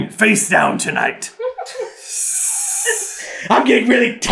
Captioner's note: laughter